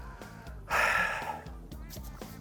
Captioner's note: sighs